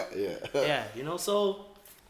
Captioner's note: laughs